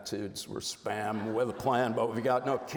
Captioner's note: audience laughs